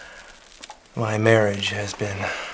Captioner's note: none